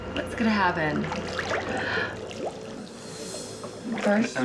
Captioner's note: water bubbling